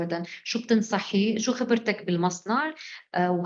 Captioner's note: speaking arabic